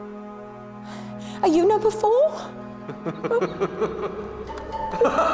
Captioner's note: tertawa